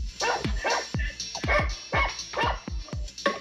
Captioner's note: dog is barking